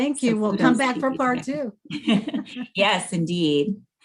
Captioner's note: laughing together